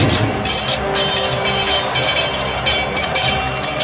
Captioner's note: wind whooshing; swords clanging